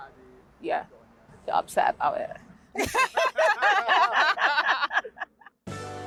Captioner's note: laughter